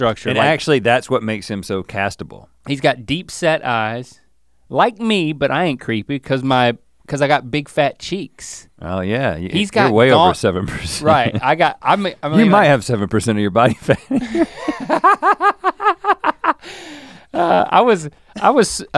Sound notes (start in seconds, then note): 13.9 laughs; 15.5 Link chuckles